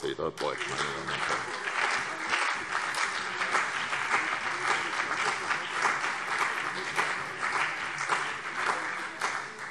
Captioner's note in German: Beifall CDU und BÜNDNIS 90/DIE GRÜNEN